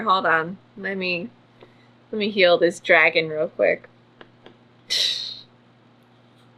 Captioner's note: scoffs